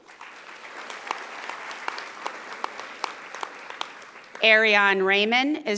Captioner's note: audience applauding